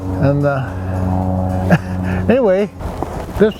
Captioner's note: laughs